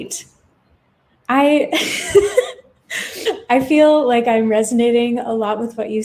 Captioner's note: laughs